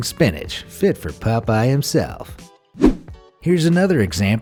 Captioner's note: air whooshing